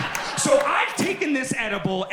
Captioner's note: audience laughs